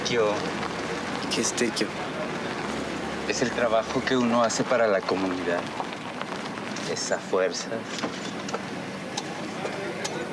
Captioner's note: speaking in Spanish